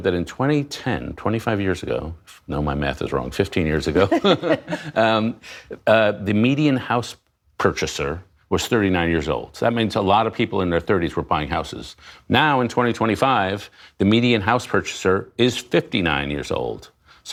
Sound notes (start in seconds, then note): 3.9 laughter